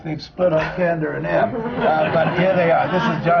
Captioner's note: laughter